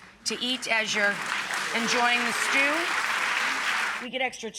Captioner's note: audience applauds